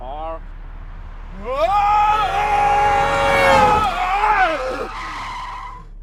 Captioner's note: Abe screams as a car horn sounds, tires squealing